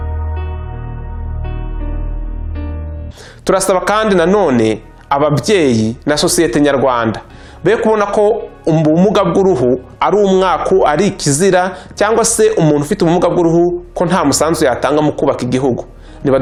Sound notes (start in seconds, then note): 3.6 speaking in Kinyarwanda